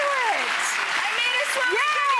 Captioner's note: applause